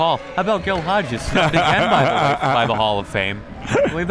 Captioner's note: laughing